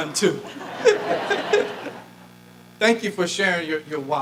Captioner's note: audience laughing